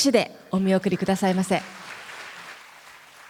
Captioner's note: applause